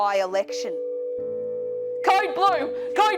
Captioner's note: flatlining sound